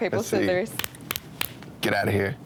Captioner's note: hands slapping